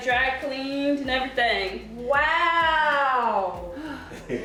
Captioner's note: breathing heavily